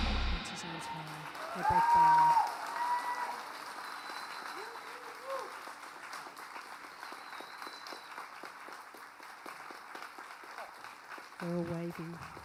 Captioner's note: applause and cheering